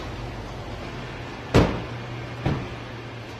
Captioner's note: car door shuts